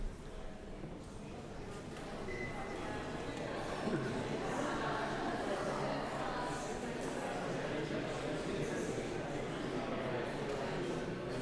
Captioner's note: audience voices